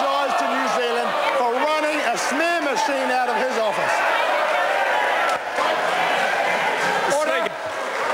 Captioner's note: members applaud